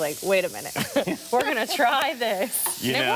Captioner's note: man laughs